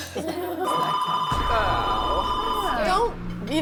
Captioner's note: phone ringing